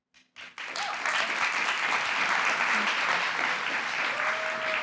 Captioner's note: applause